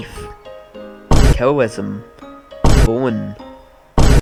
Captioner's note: boom; boom